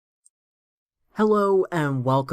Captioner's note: no audio